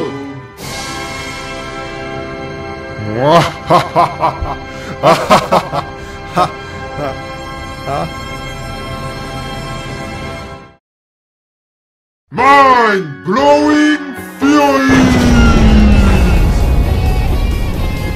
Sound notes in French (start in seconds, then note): 3.3 rire maléfique; 6.7 rire moins maléfique